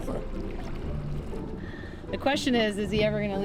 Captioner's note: water rippling